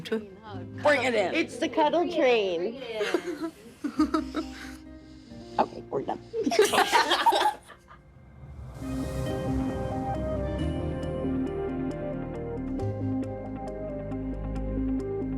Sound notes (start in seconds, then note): 6.4 everyone laughing; 7.7 dramatic music